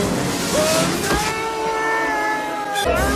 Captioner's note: screams